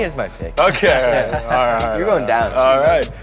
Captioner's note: laughing